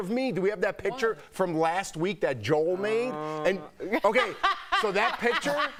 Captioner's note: laughter